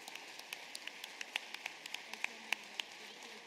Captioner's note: applause